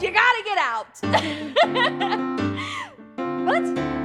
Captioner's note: laughing